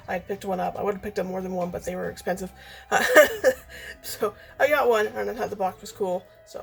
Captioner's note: laughs